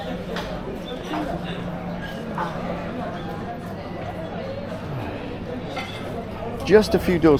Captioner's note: people chattering